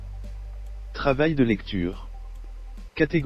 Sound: computer voice reads text

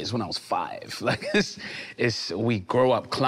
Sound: laughing amusingly

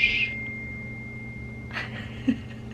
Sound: ringing; laughing

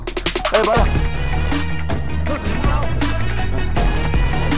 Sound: Malay Language

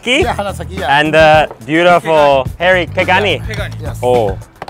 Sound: speaks Japanese

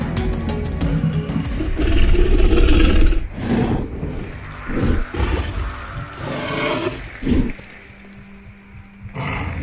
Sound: growling

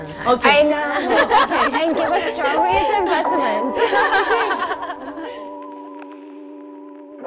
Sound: mellow music; all laughing

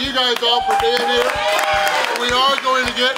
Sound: crowd cheering and clapping

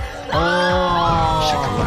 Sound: women screaming

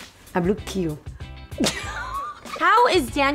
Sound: laughter

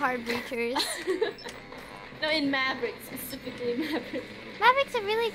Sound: laughs

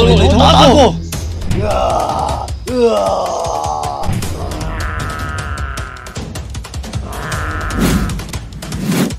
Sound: monster sound

